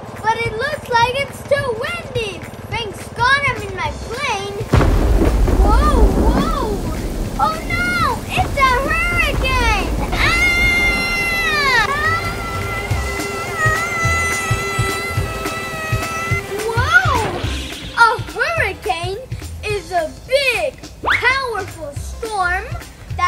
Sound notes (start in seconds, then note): 5.2 thunder rumbling; 10.4 screaming